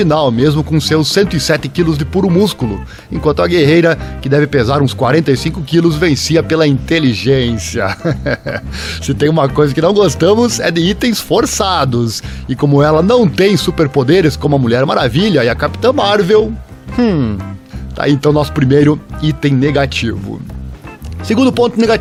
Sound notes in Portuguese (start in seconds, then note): 7.8 risos…